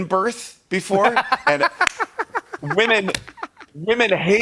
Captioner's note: laughs